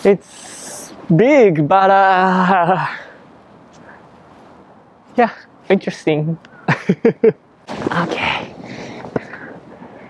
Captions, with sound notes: It's... ...big, but... Yeah. Interesting. [CHUCKLES] Okay...